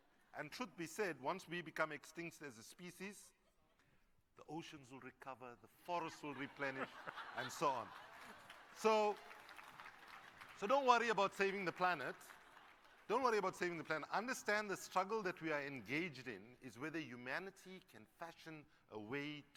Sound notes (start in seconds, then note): 8.3 laughter; 9.3 applause